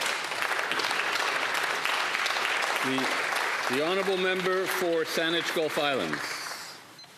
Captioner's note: applause